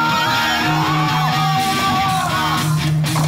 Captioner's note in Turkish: bağrışmalar